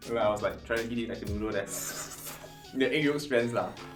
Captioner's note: slurping sounds